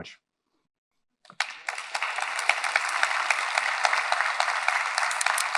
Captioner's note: audience applauding